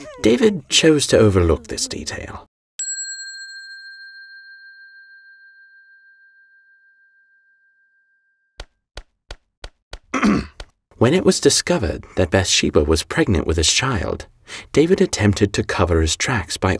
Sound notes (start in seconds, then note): 2.8 bell dinging; 10.1 David clearing throat